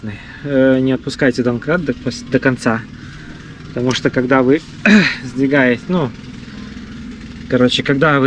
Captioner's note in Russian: откашливается